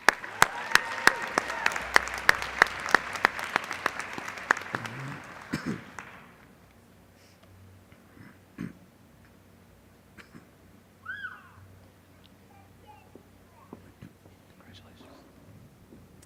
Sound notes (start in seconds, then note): 0.0 applause